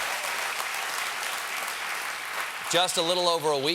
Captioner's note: cheers and applause